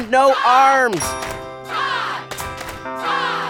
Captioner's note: chanting